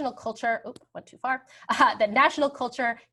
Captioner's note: laughs